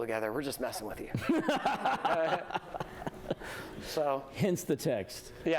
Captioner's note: laughter